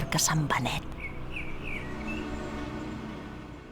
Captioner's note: singing of the blackbird